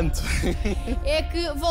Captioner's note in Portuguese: risos